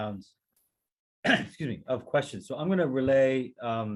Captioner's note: coughs